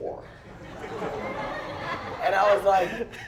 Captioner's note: laughter